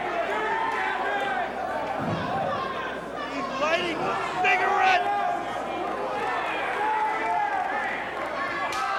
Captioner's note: crowd cheering